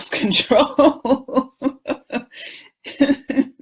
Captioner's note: laughs